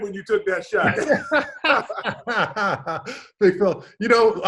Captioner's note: Sean and David laugh